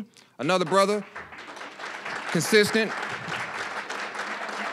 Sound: applause

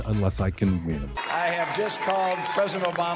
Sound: cheering

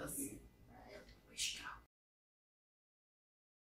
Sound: whispers

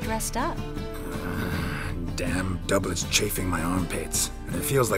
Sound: groan

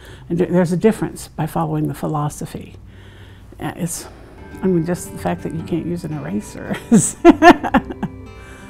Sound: laughing

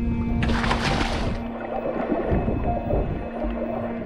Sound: water splashes; peaceful music

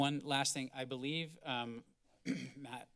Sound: clears throat

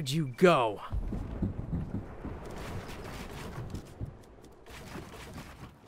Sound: thud noises

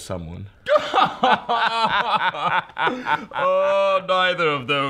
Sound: southern, pretentious laughter

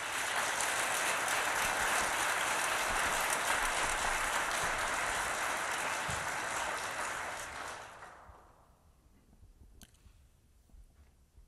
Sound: applause

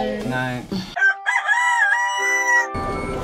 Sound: rooster crowing; uplifting music

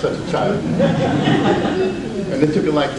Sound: audience laughs

